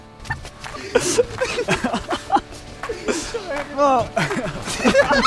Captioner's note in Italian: risate